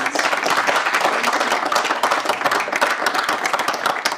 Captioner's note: audience applauding